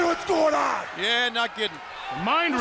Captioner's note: crowd cheering